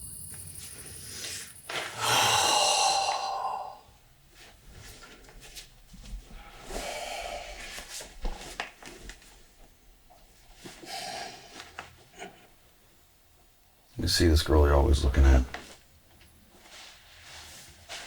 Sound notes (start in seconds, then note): 1.9 Anderson sighing